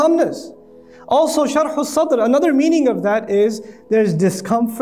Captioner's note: Arabic